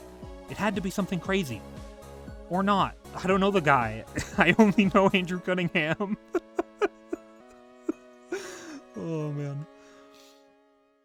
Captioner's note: laughing